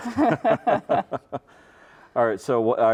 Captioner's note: chuckling